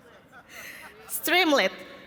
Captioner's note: laughter